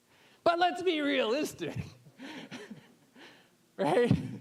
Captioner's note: laughing